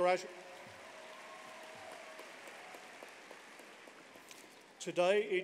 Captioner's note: applause